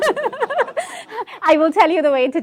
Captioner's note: laughing together